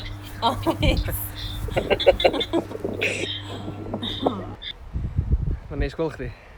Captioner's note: they both laugh